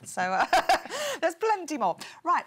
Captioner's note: laughs